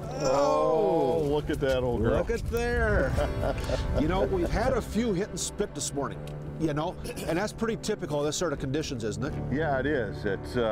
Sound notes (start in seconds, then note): 5.3 laughter